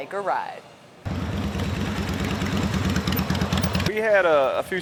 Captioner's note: motorcycle engine roaring